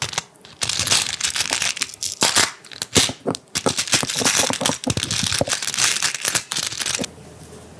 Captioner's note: clatter